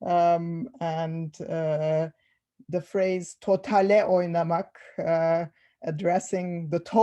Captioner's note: non-english speech